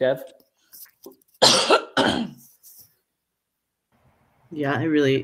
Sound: coughs

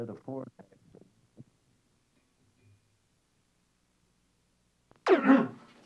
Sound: silent

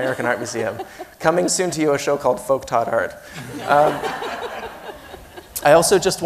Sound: laughs

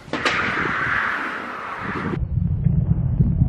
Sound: scraping

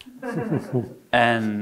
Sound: audience laughing

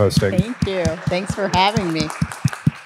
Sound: audience applauds

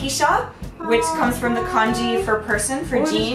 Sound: incredulous moaning

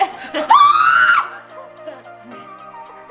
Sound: screams

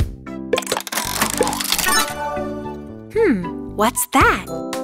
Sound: turning sound

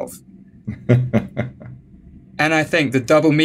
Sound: chuckling

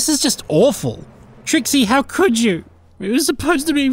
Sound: crying

